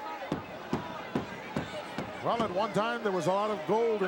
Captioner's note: hand slapping